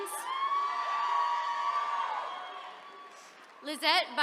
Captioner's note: attendees cheering